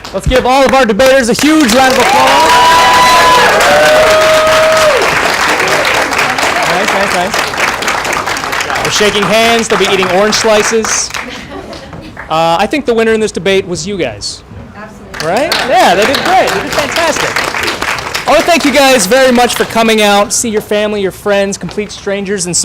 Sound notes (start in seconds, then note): 2.7 applause and cheering